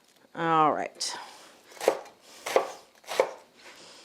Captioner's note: knife thumps